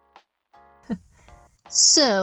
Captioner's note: laugh